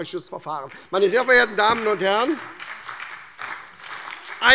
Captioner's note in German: Beifall bei der SPD